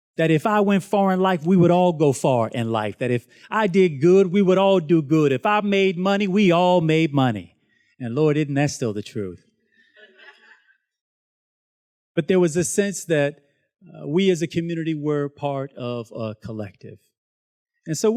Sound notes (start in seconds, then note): 10.3 students laughs